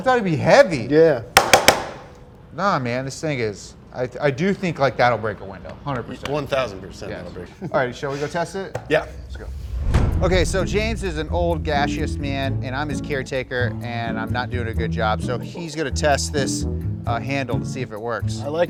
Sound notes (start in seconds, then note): 1.4 bangs on table